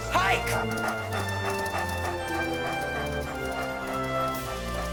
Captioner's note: dogs panting